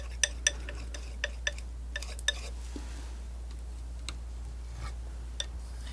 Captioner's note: tapping